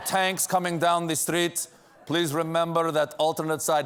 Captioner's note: ukranian accent